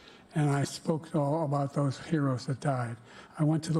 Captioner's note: none